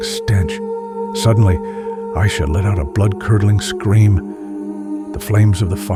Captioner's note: let out a bloodcurdling scream